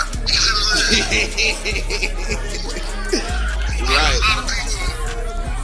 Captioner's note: man laughing